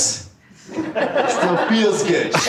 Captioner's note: audience laughing